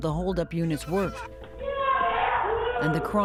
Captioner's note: woman screaming